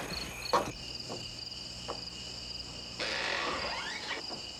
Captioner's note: bugs chirping